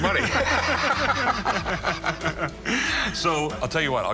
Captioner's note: laughter